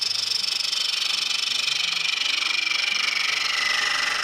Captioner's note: machine whirring